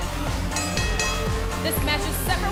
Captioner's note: bell ringing